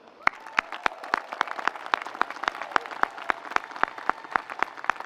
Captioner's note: audience applauds